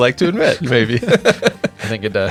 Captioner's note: laughing